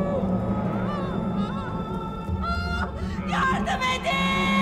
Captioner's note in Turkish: Ağlama sesi